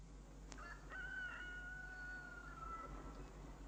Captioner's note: rooster crows